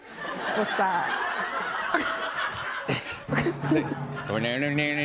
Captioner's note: laughter